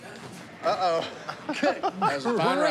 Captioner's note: laughter